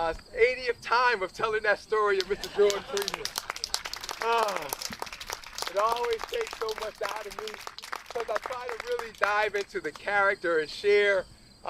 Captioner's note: applause